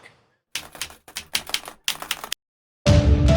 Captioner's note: keyboard keys clicking; dramatic music